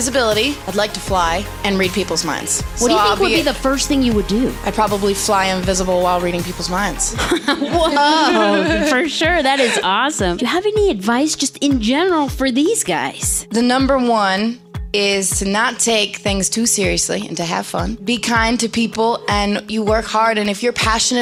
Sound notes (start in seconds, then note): 7.1 laughter